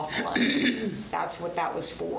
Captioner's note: clears throat